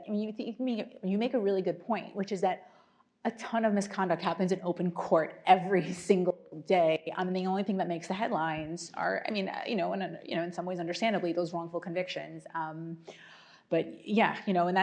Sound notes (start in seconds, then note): none